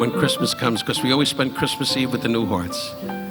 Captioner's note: audience laughing